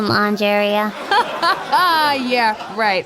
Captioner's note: laughs